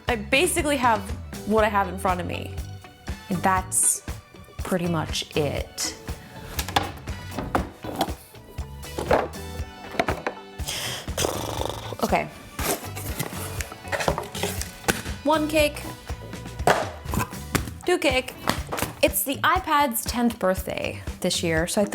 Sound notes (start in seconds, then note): 5.9 gentle jazz music; 11.2 trills